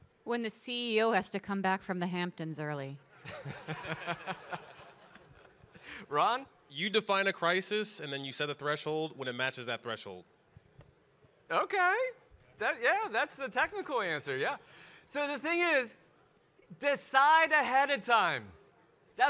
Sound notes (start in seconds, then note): 3.2 audience laugh; 3.2 laughs